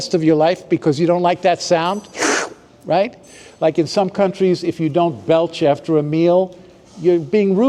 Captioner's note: slurping sound